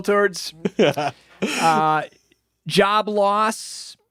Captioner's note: laughing